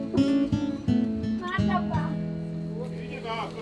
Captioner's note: in Georgian